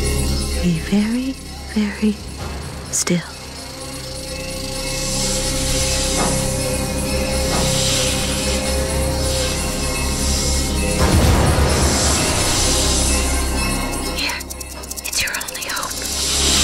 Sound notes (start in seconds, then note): 3.8 scary music continues; 7.1 hissing; 13.8 whispers